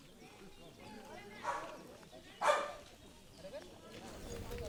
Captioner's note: people of the village chatting